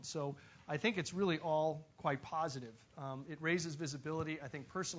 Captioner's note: none